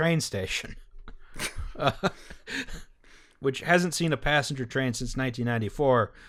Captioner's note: bleak laughter